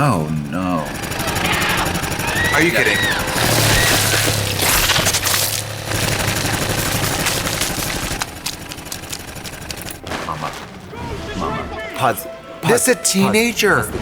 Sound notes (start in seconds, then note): 1.0 slicer whirring; 3.6 blood squelching